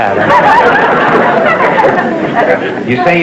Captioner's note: laughter